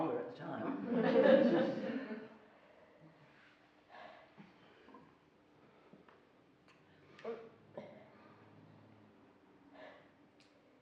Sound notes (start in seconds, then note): 1.5 laughing